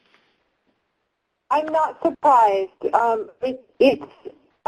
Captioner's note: pat